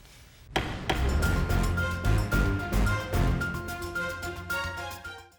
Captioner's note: dramatic music; gavel thumping